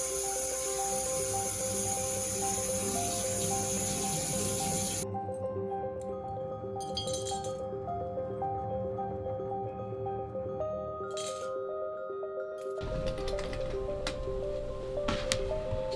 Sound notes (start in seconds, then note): 0.0 water running from faucet; 8.0 broken glass